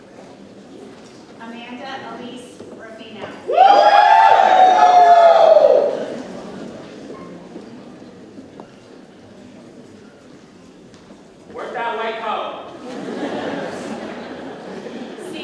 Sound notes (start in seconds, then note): 3.4 audience cheers; 12.7 audience laughs